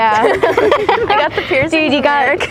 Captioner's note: both laughing